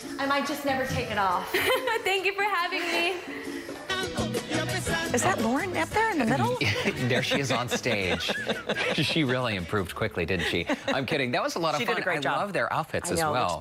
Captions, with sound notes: ALL THE DANES AND ALLOWING US TO BORROW THEIR COSTUMES. AND I JUST NEVER WILL TAKE IT OFF. >> THANK YOU FOR HAVING ME. >> IS THAT LAUREN THERE IN THE MID UNTIL. >> THERE SHE IS ON STAGE. [ LAUGHTER ] >> SHE IS REALLY IMPROVED